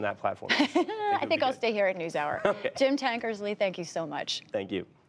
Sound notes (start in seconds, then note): 0.4 laughter; 2.4 laughter